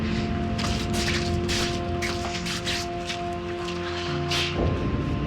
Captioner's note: plastic bag rustles